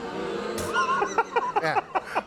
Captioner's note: audience booing; Conan laughing